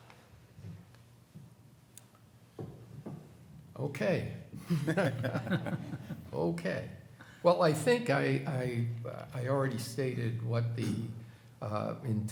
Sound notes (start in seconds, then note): 4.6 chuckles